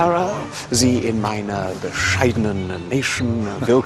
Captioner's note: Berbicara bahasa Jerman dengan canggung